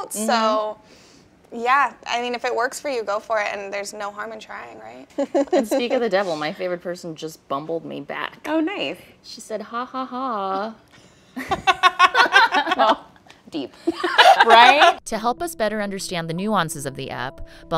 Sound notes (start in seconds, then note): 11.3 laughing